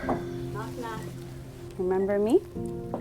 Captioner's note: knock at the door